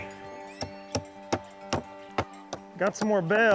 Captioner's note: hammering